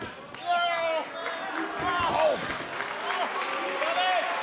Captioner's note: wrestlers grunting